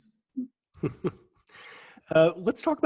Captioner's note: chuckle